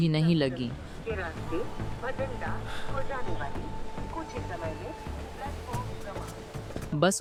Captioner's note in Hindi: Station announcement — train departing shortly